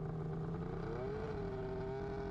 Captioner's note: engine revving